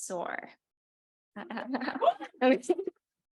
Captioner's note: chuckling